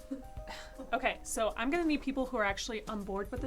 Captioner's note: scoffs